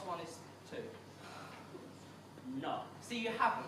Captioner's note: Ed sighs